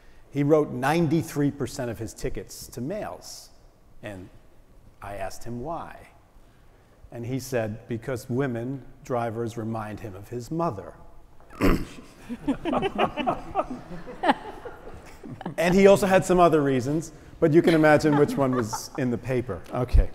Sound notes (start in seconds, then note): 11.5 cough; 11.8 laugh